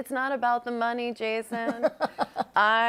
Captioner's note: laughs